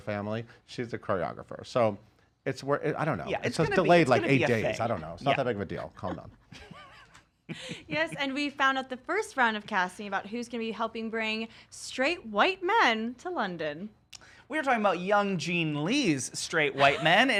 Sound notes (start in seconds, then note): 7.4 chuckles; 16.8 laughs